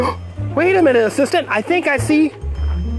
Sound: gasping

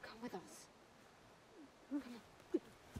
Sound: whimpering

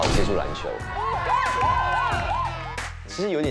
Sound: excited fans

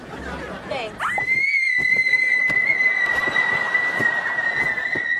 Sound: both screaming

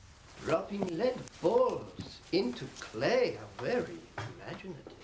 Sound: sarcastically

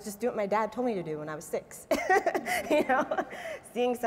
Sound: laughs

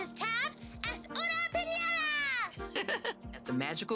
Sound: speaking foreign language

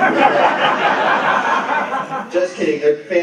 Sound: laughter

